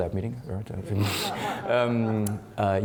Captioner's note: laughing